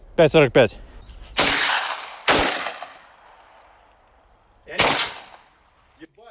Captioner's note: gunshots